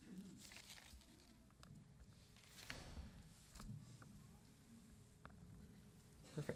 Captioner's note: none